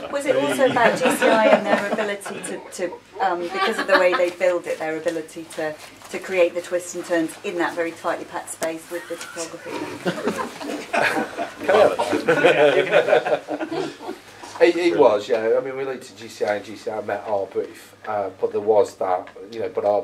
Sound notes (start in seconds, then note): 11.5 laughing